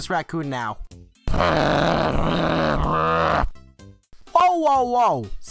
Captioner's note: AF's raccoon growls at him